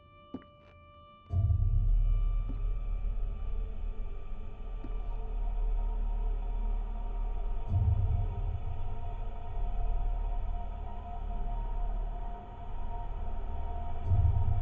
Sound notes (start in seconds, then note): 0.3 footsteps tapping; 4.5 suspenseful music